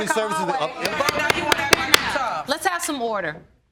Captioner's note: all arguing; banging gavel